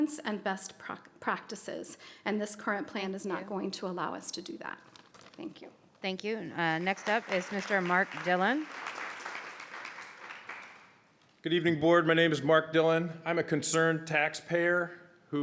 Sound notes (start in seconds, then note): 9.0 audience applauds